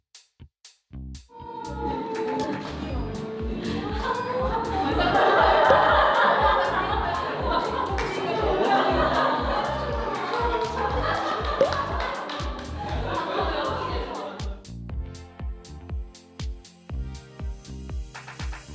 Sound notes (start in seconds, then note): 5.4 got the giggles again